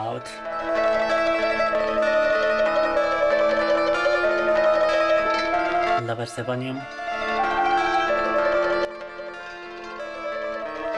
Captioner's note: speaking in foreign language